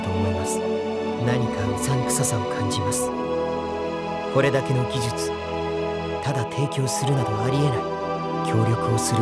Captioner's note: whisper